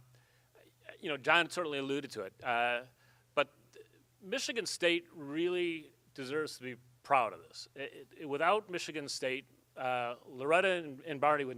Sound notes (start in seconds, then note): none